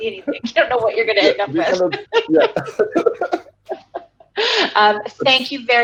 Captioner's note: laughing